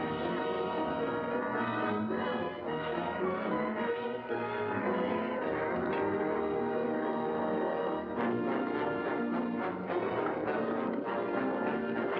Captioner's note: tense music; cattle mooing; tense music